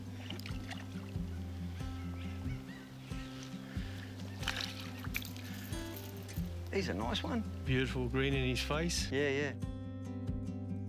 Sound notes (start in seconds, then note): 0.0 fish splashes; 5.5 fish flutters; 7.0 bright music continues